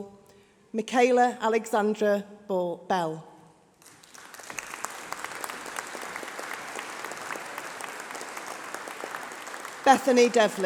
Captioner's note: applause